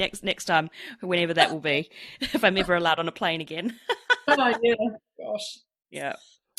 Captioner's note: laughs